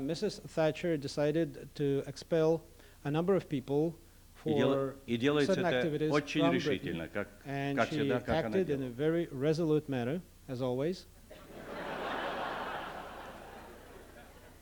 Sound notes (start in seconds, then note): 4.4 non-english speech; 11.3 laughter